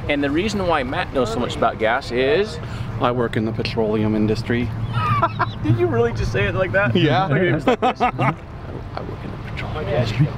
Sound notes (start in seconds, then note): 4.9 laughs; 7.1 laughs